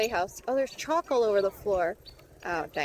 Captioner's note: turn signal chirps irregularly